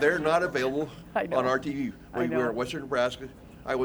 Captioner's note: laughter